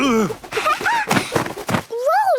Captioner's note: laughing